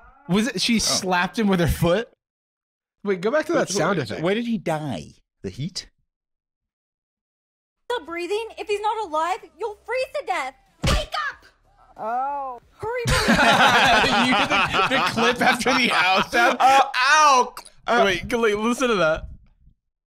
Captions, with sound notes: She slapped him with her foot? - Wait, go back to that sound effect. - Why did he die? The heat? (laughing) The clip after the "ow" sound? "Ow – !" Wait, listen to that.